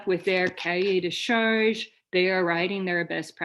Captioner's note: french